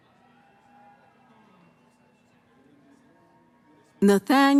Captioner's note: cheering